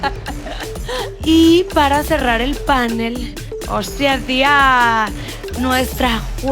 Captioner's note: in a spanish accent